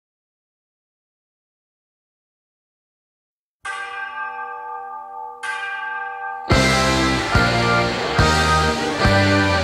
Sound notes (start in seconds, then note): 3.6 bell chiming; 6.5 upbeat rock music